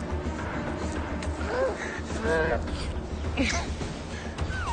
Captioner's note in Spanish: Quejidos